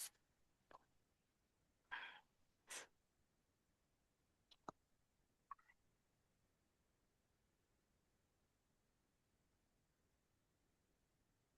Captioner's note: silence